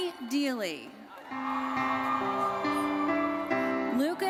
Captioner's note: audience cheering and applauding